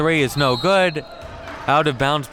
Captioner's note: whistle blows